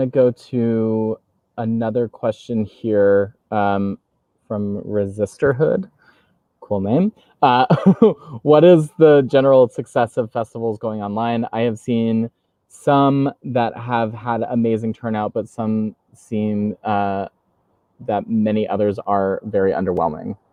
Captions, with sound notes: I'm gonna to another question here from Resisterhood, cool name (laughs), "What is the general success of festivals going online? "I have seen some that have had amazing turnout "but some seem that many others are very underwhelming."